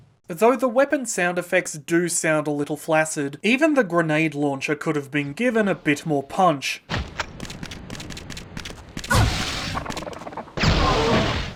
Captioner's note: weapon sound design medley